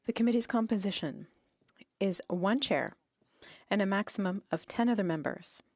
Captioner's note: speaking French